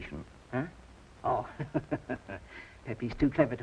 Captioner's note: chuckles